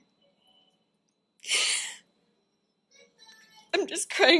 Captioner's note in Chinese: 抽噎